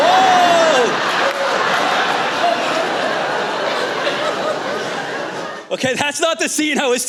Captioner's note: laughter